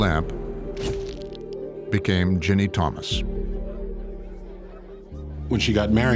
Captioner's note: shutter clicks